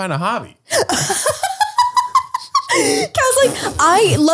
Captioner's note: laughing